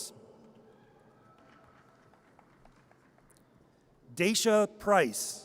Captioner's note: audience cheers